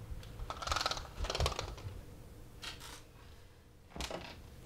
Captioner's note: blinds clicking